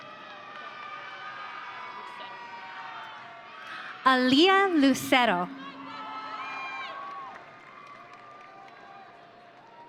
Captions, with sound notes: (audience cheering) Aleah Lucero. (audience cheering)